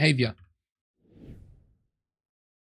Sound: whoosh

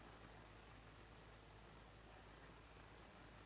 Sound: none

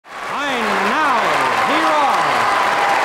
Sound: applause

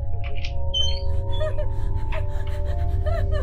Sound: door squeaking; woman laughing

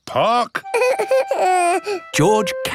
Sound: whimpers

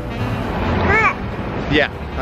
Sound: baby sound

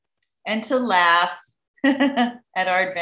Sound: laughs

